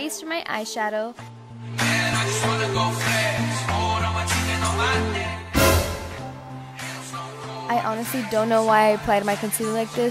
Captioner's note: suspense noise